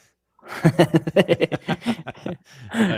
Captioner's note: laughter